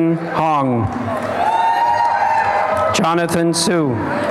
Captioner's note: applause and cheering; applause and cheering